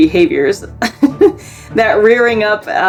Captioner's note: chuckles